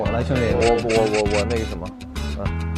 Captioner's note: stuttering